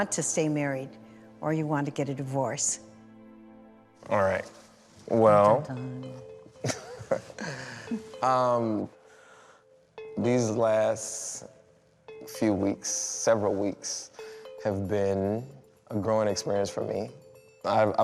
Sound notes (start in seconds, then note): 6.6 laughs